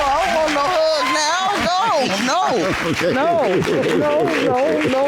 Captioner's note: laughs